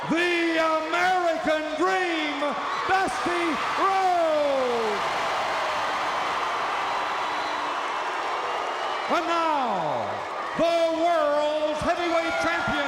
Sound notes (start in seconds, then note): 4.6 audience cheering